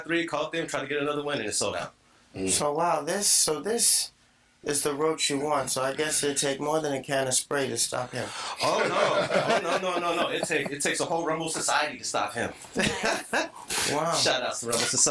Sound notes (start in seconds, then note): 8.5 all laughing; 12.7 laughing